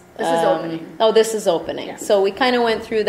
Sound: voiceover

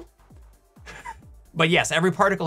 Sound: giggle

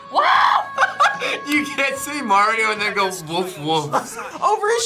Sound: laughs

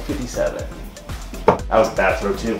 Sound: dart hitting board

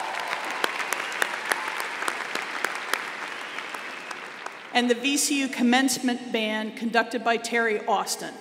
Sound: applause

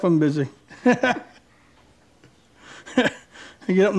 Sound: man laughs

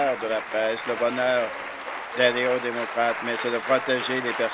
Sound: applause

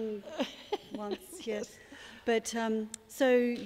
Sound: laughter

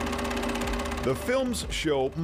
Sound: camera projector whirring

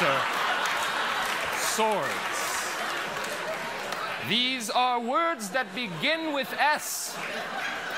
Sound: laughter

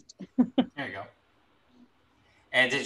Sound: laughs

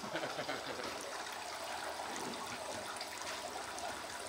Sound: chuckles

